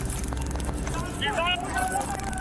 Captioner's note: officer, shouting